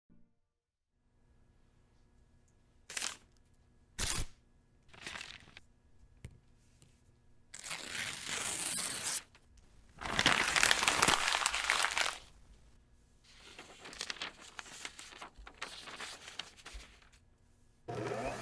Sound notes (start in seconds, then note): 3.0 clicking; 7.7 paper ripping; 10.5 rustling